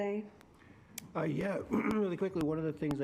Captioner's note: clears throat